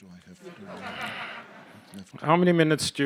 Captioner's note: audience laughing